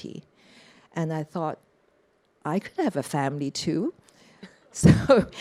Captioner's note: chuckles